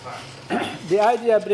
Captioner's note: cough